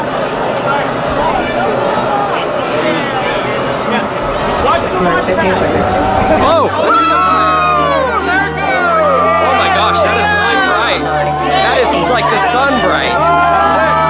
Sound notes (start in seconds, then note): 1.2 people shouting